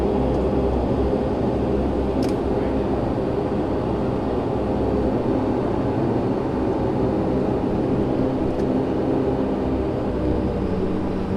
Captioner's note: aviation noise